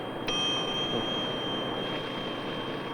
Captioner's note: bell ringing